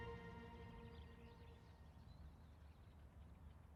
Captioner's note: birds chirping